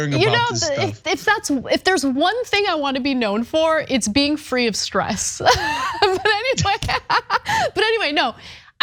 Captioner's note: laugh